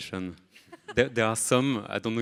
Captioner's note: laughs